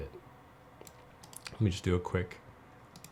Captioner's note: clicking